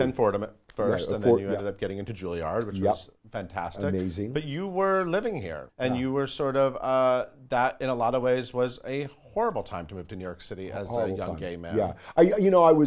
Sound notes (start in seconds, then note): none